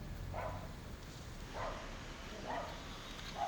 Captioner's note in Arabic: نباح كلب